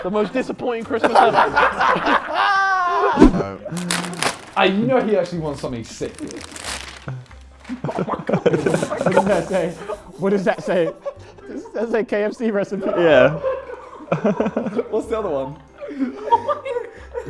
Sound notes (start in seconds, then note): 0.8 Sidemen laughing; 12.7 laughs